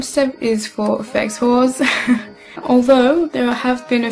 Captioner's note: haha